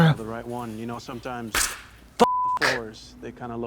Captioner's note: beep